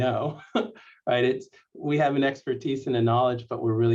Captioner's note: laughter